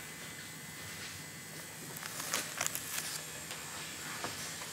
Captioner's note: whirring of a tattoo machine in the background